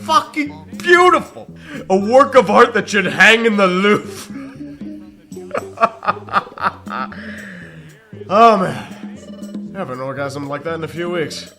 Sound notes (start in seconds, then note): 5.5 laughs some more